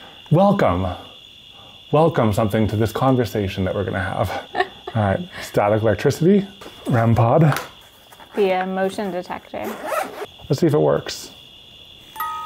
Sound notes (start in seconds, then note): 4.2 laughs; 9.6 zip buzzes; 12.1 music box chiming